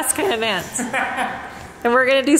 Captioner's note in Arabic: يضحك